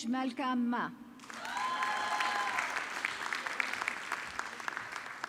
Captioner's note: audience clapping